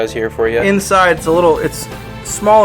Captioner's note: voiceover